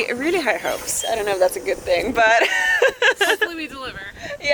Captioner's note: laughs